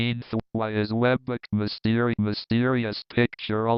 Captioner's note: screen reader rushing, skipping